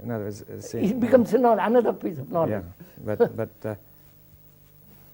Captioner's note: laughs